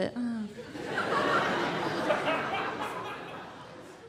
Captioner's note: laughter